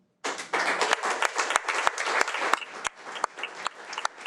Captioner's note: audience clapping